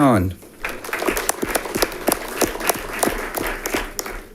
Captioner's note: audience clapping